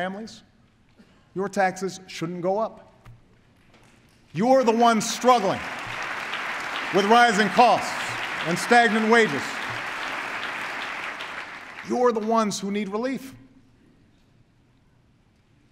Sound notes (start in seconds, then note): 4.4 applause